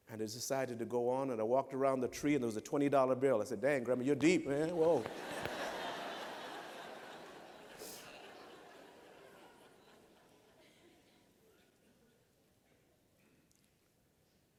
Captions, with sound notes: And I decided to go on, and I walked around the tree, and there was a $20 bill. And I said, “Dang, Grandma, you’re deep, man. Whoa!” [LAUGHTER]